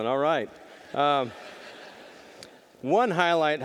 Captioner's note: audience laughing